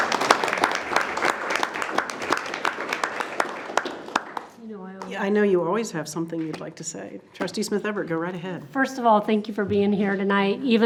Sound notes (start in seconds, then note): 0.0 board applauding